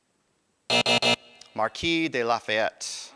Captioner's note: buzzer